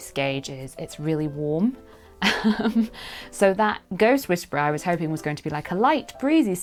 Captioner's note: giggle